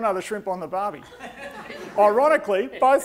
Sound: audience laughing

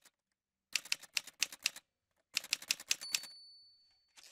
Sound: typewriter sounds

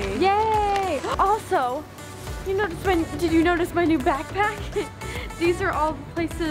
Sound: laughs

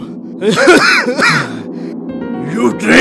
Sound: coughing

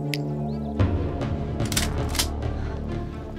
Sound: snaps fingers; gun cocks

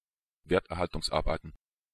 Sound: fast Pronunciation

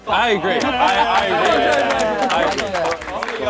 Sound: laughing and clapping

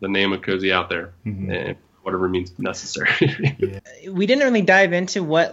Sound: laughs

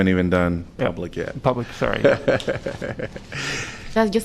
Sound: laughter

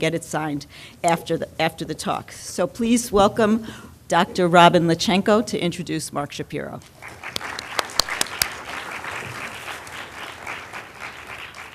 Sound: audience clapping

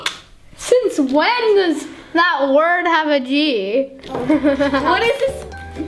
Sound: laughs

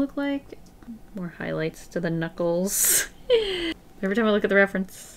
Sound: laughs

